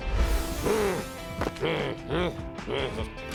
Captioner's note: growls